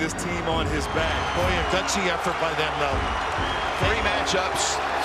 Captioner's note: crowd cheers